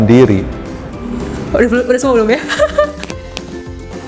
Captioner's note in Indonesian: Tertawa